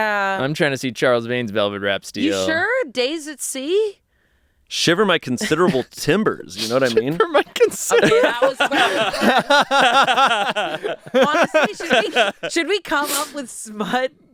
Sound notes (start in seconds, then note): 8.6 laughs; 9.0 everyone laughs